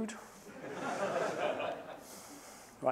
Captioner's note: laughter